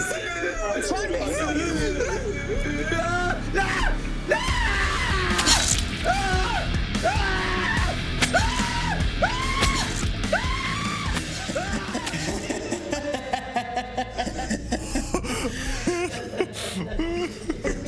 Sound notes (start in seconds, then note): 4.2 Roy screaming; 5.2 upbeat music; 7.2 Roy screaming; 10.3 upbeat music; 15.7 Andre laughing